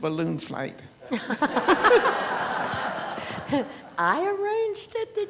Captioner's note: laughter